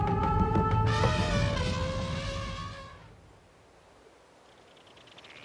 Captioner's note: elephants trumpeting